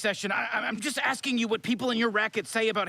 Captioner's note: stammers